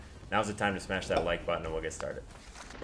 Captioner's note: pop